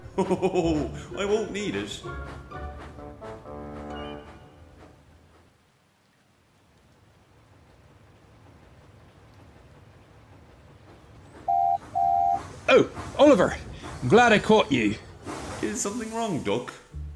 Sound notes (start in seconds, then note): 10.5 duck whistles